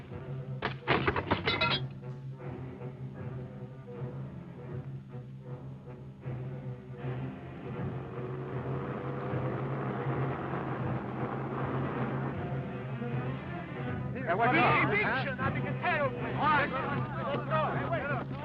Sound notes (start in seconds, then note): 0.2 jug thuds; 0.8 chair clatter; 7.5 car engine revving